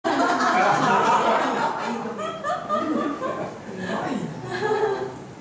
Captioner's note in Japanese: 笑い